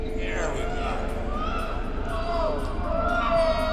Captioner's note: muffled screams